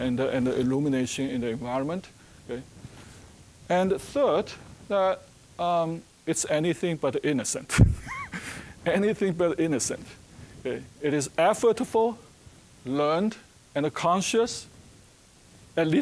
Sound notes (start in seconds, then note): 7.7 chuckling